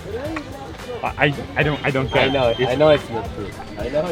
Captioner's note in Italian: Inglese